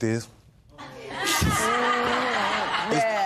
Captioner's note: laughter